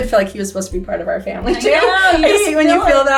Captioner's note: laughs